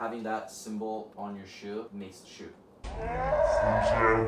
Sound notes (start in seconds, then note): 3.0 child screaming in background